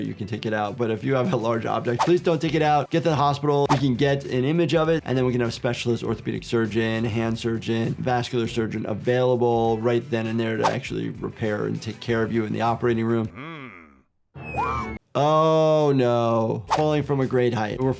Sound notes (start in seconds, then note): 14.4 animal yelling